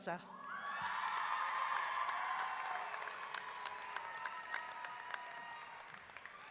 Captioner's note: audience clapping and cheering